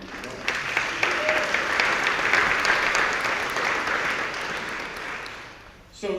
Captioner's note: applauds